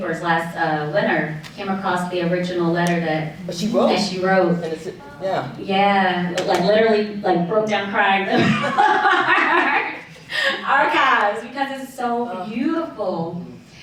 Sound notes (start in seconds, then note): 8.3 laughs